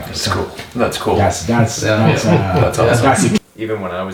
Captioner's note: men mumble in agreement